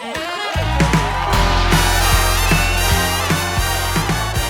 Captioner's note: jazzy music; audience cheers